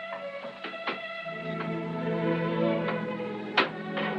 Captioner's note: pots Clanking